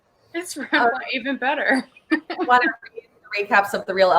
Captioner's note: laughs